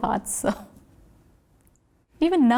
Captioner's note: laughs